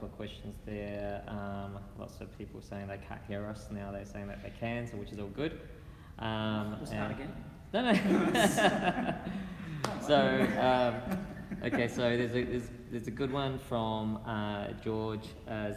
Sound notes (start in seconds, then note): 7.9 laughing